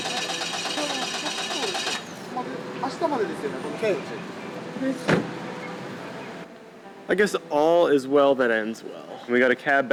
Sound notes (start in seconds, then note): 2.7 in Japanese